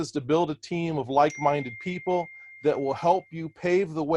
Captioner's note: machine pings